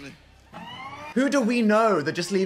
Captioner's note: alarm blaring